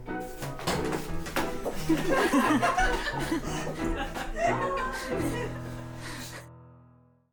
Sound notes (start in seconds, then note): 1.7 laughing